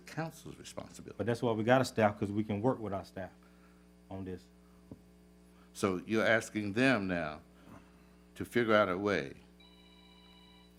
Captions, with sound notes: council's responsibility. But that's why we got a staff? Because we can work with our staff on this. So you're asking them now to figure out a way. (phone ringing)